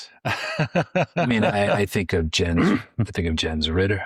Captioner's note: laughs